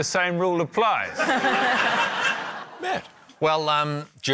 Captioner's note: laughter